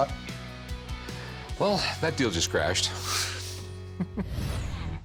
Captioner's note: chuckles